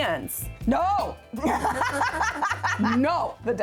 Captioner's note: laughing